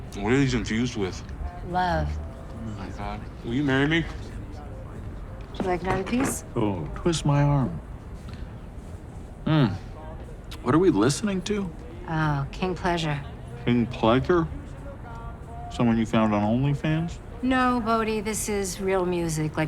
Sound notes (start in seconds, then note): none